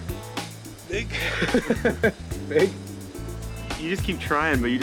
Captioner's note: laughing